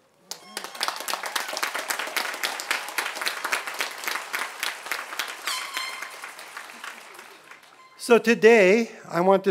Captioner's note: applause